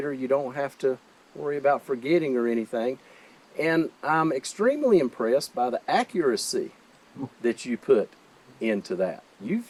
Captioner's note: none